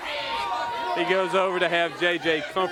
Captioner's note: crowd chatter